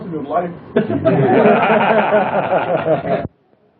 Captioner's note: laughter